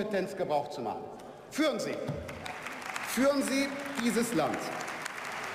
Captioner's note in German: Beifall